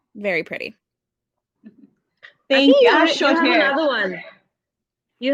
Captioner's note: chatter